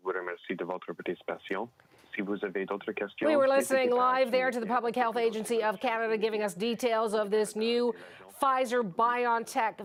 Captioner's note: speaking French